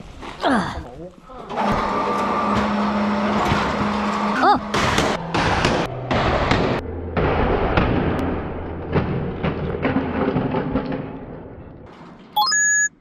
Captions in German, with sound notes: [SCHNAUFEN] - ..kannst du schonmal hochfahren.. [MASCHINENGERÄUSCHE] Oh! [KRAAAAACH] [KRAAAAAAAAAACCCCCCHHH] [KRAAAAAAAAAAAAAAACCCCHHH] [KRAAAAAAAAAAAAAAAAAAAAACCCCHHHH] [PLING]